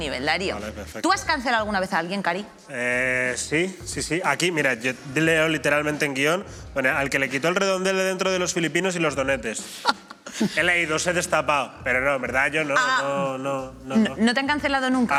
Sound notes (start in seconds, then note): 9.6 laughs